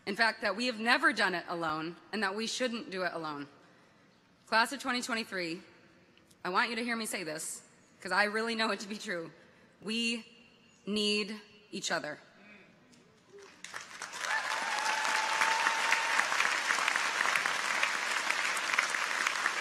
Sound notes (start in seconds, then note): 13.3 audience applauds; 13.3 people cheer